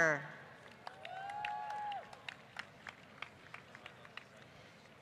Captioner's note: applause